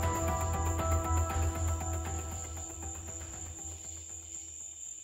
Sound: mysterious music; crickets chirping

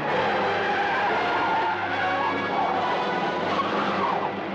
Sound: tires screeching

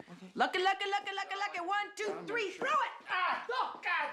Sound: yells

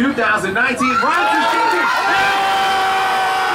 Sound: crowd

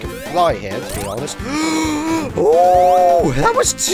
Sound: gasp

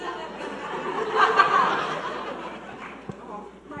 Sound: audience laughing

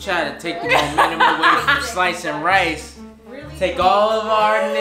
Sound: laughs

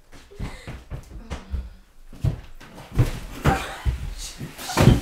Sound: more shuffling. And also some tripping

